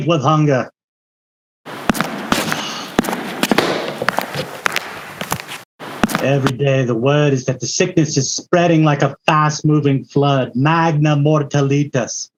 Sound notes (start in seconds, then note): 1.7 footsteps